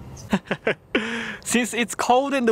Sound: laughs

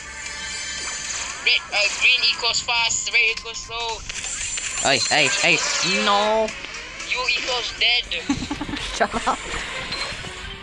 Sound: laughing

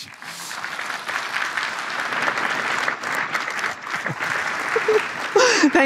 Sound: applause

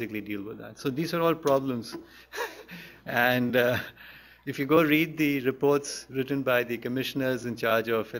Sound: laughs

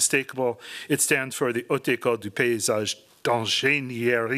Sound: speaking french

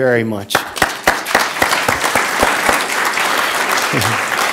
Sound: applause

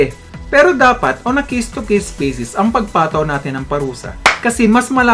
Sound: clap!

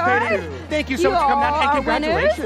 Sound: cheers and applause

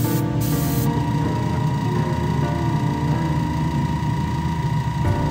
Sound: humming

